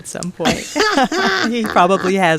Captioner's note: laughter